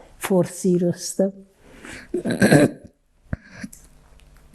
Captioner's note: clears throat